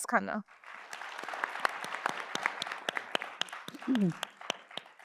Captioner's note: audience applauds